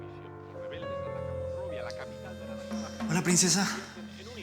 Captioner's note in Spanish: Voz en la televisión